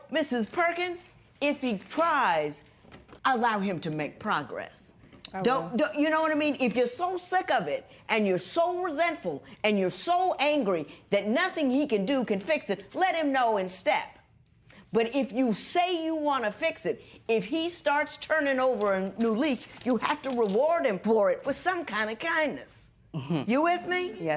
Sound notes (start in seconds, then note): none